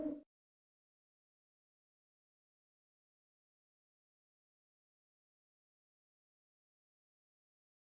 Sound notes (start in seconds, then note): 2.8 silence